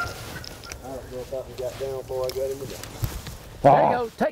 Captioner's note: the group chattering